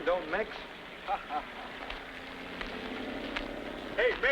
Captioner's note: men laughing